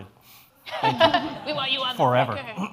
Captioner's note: laughs